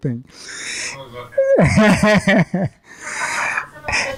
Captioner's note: laughing